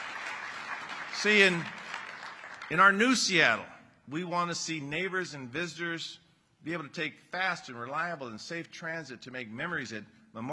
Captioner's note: applause